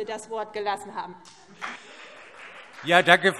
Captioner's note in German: Beifall CDU und BÜNDNIS 90/DIE GRÜNEN